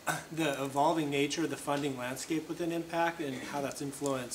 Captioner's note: cough